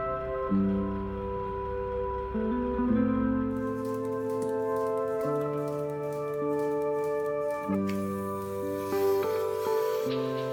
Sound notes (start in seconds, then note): 3.6 milker clicking